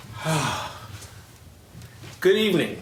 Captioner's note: sighs